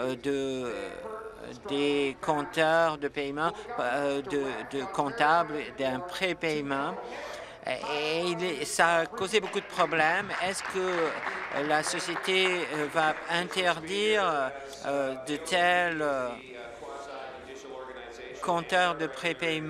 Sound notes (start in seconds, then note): 14.2 applause